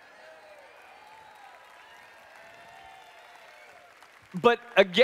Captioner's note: applause/Cheering